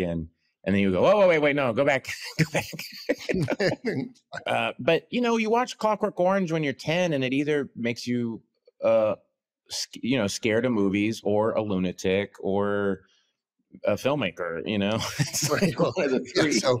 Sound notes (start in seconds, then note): 2.1 both laugh; 14.9 laughs